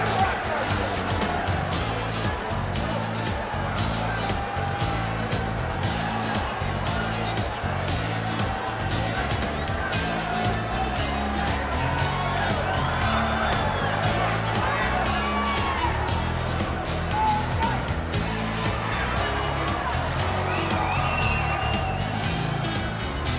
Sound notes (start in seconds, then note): 5.5 crowd chatter